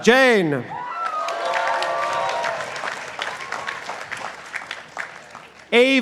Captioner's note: participants applauding